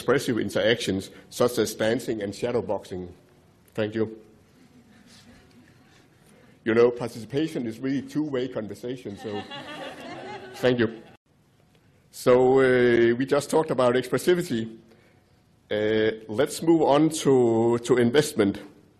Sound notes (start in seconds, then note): 9.1 audience laughing